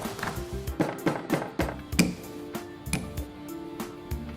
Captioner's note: rolling pin banging